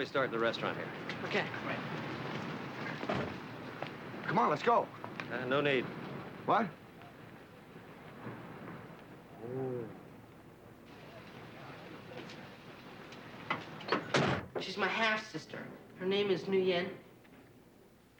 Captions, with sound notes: You like it? It is great. She's going to love this. [door opens] Dad, you're home early.